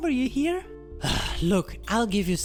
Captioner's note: sighs